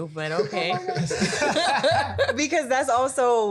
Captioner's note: panel laughing